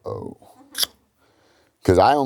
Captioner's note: clicks tongue